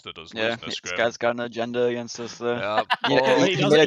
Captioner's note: laughs